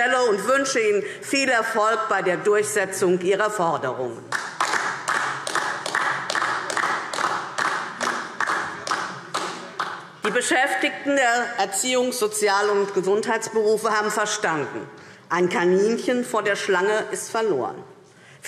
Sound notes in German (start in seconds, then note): 4.3 Beifall DIE LINKE